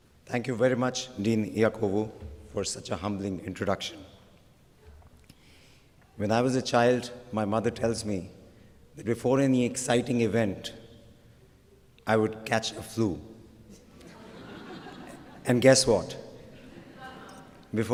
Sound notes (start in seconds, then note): 13.7 laughter